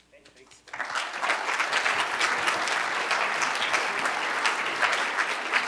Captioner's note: cheers and applause